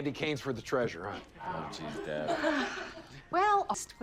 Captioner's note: Margie sighs